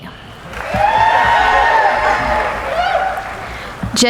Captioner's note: cheering